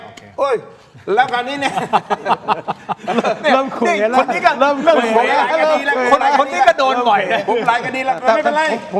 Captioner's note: laughs